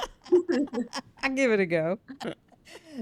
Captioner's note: laughing